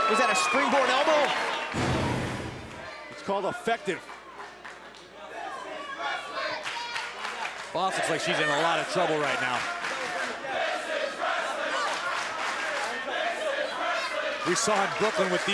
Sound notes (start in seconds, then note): 5.1 crowd cheering